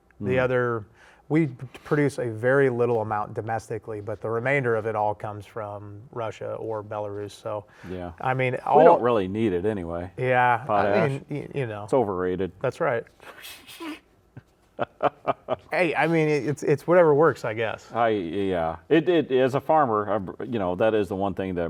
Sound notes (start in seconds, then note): 14.7 laughs